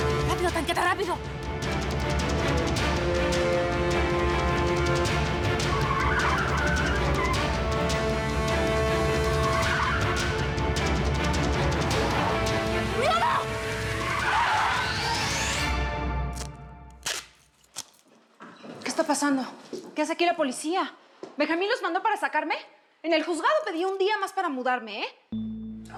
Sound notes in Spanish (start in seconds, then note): 5.6 chirrido de neumáticos; 13.3 frenazo violento